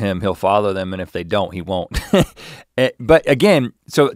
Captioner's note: chuckles